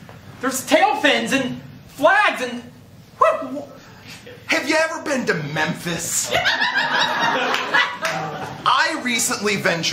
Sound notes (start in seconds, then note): 6.2 laughter